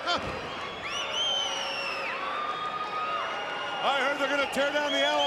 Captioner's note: crowd cheering